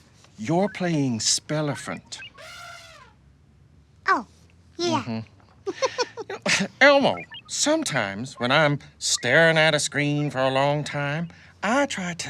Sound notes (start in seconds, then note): 1.6 elephant trumpets; 5.6 laughs